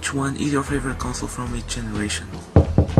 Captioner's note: knock